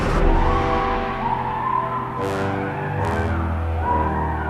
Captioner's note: Trisha screaming